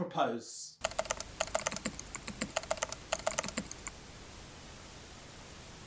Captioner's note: keyboard keys clicking